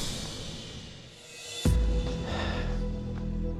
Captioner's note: dramatic music; sigh